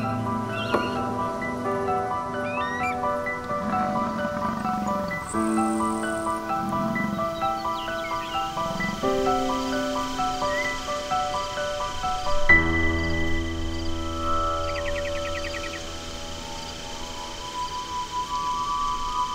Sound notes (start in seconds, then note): 3.4 bison grunting; 8.9 insects chirping